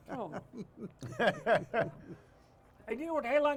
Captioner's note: laughs